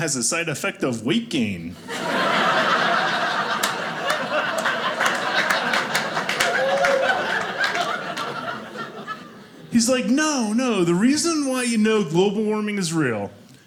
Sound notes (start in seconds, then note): 1.7 audience laughing; 4.6 audience clapping